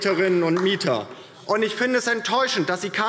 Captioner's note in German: Beifall DIE LINKE